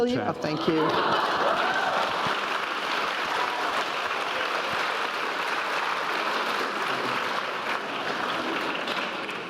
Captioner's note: applause